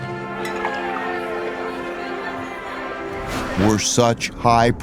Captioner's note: glasses clink